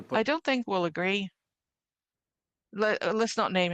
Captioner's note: speaking French